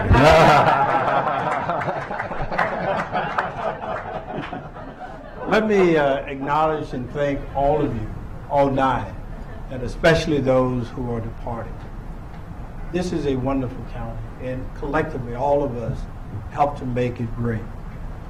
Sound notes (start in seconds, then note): 9.3 laughter